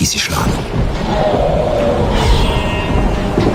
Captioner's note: screams